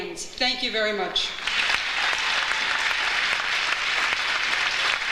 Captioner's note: audience applauds